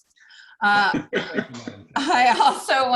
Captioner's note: laughing